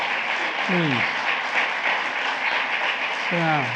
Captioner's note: applause